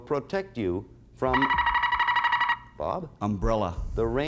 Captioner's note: buzzer sounds